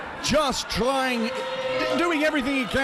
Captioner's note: audience booing